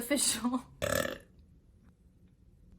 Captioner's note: obnoxious burp